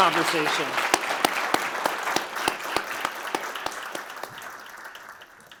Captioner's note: audience applause